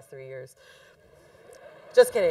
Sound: congregation laughing

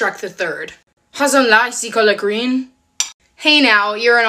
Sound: French accent

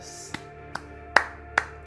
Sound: claps

